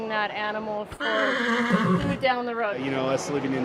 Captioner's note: horse whinnies